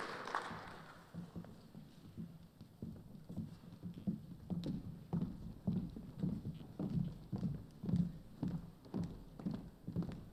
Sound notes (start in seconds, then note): 0.0 cheers and applause